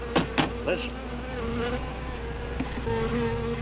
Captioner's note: tapping; angry buzzing